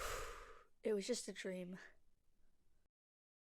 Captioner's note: sigh